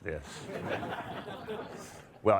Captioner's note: audience laughter